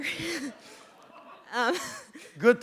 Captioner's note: chuckle